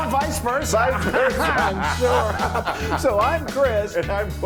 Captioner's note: laugh